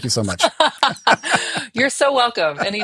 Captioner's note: both laughing